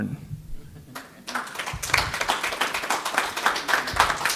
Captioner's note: applause